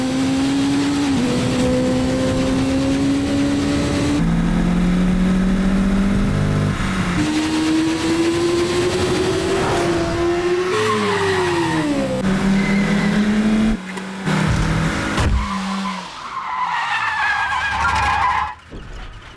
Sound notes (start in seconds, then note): 10.3 tires screeching; 14.8 tires screeching